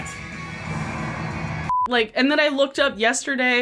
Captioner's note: broadcast signal